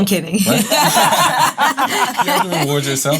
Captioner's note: laughs